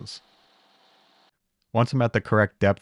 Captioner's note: machine whirring